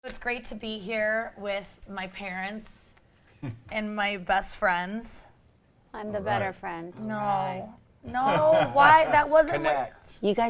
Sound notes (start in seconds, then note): 3.4 chuckles; 8.1 laughs